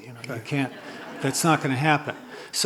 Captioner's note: laughter